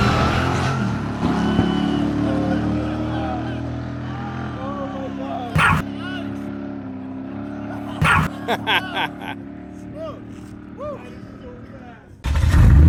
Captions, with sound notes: (everyone laughing) - Oh my God. - Nice! - Whoo! - That is so fast!